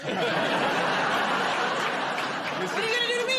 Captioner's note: laughter